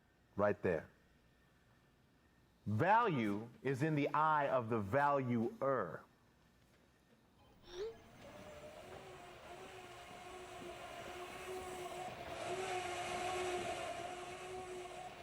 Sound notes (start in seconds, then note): 12.5 Zumbido del vehículo eléctrico